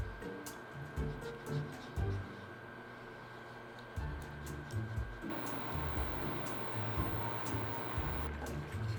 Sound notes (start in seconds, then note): 5.3 simmering